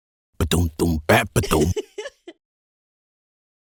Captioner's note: happy giggle